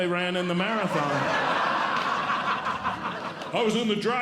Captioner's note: audience Laughing